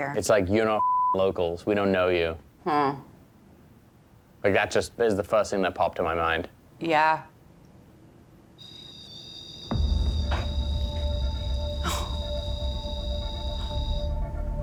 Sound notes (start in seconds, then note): 8.6 beeping; 9.7 ominous music